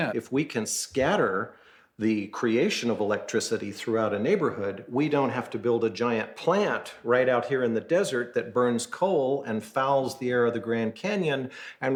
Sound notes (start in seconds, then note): none